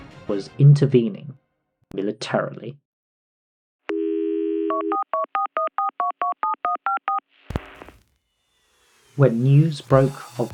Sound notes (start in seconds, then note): 4.6 phone dial